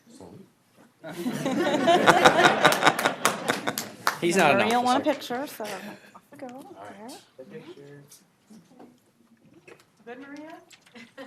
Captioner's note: applause